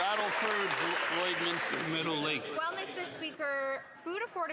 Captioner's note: some Applause